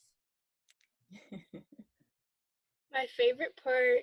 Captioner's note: laughs